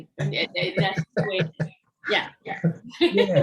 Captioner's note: laughs